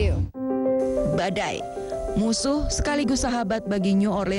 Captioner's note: non-english speech